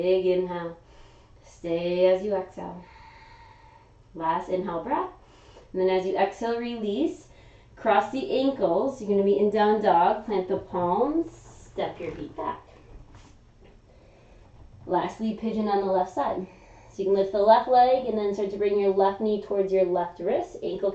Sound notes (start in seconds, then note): 2.8 exhaling; 2.8 inhaling